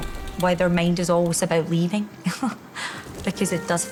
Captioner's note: chuckles